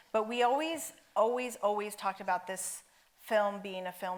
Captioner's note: none